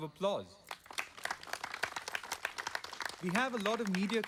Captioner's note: audience clapping